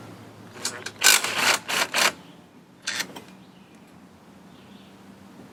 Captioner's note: drill rattles